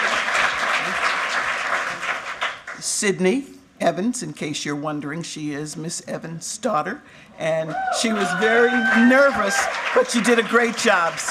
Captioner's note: cheers and applause